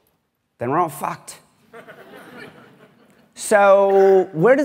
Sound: laughter

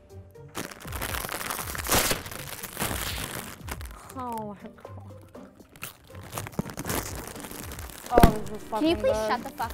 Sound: loud crunching of chip bag

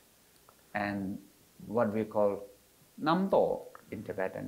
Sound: foreign language

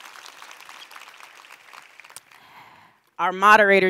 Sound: applause

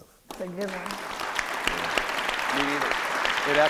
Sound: applause

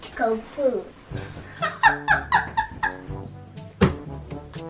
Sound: laughs

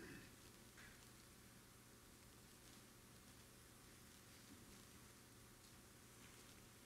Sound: audience member clearing their throat

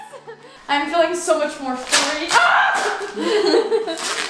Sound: yells

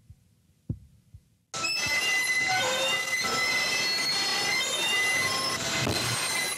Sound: loud, grating screech

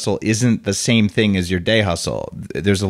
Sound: none

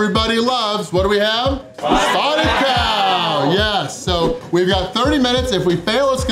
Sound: crowd

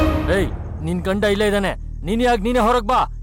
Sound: Malay Language

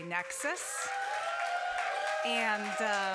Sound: applause

